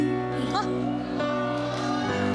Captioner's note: gasps